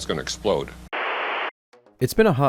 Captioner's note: static